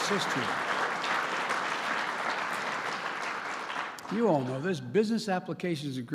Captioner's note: applause